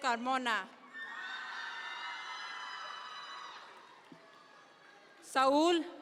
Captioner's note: audience members cheer